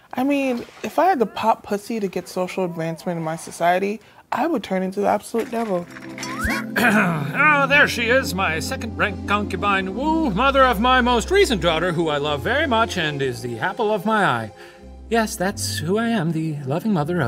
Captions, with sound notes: - I mean, if I had to pop pussy to get social advancement in my society, I would turn into a absolute devil. - (clears throat) Oh, there she is, my second rank Concubine Wu, mother of my most recent daughter, who I love very much and is the apple of my eye. - Yes, that's who I am, the loving mother